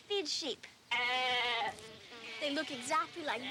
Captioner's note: sheep bleating